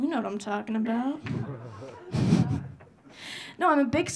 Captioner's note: audience laughing